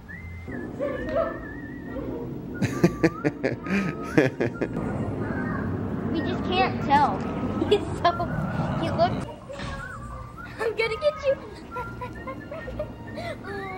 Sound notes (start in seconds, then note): 2.6 person laughing; 11.4 boy laughing